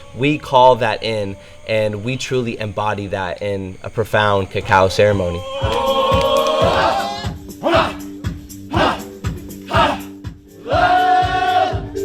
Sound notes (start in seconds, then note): 6.0 chanting; 8.6 gentle music